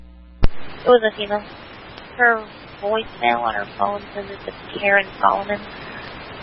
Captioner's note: radio traffic